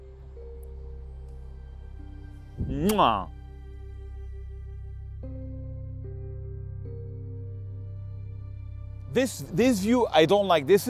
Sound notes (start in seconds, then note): 2.6 kissing sound; 5.2 soft, sad music playing